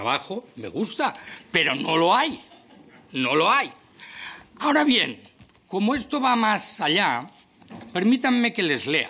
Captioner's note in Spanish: Risas